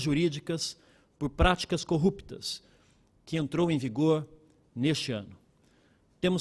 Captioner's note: speaking Portugese